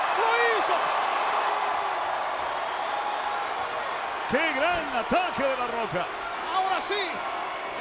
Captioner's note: applause